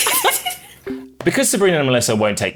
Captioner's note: everyone laughs